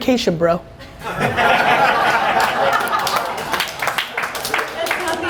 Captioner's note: audience laughing